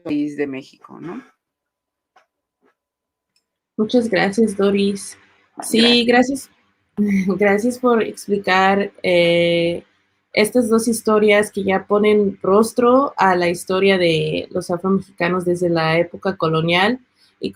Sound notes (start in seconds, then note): 3.8 speaking Spanish